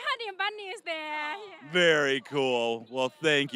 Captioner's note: all laughing